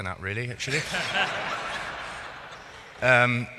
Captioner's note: laughing